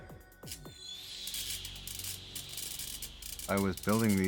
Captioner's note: electricity buzzing